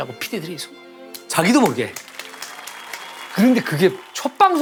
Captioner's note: clapping automatically